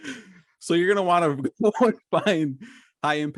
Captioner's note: laughs